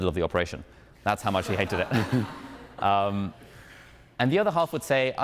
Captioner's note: audience laughing